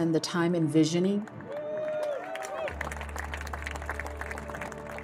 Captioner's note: crowd cheering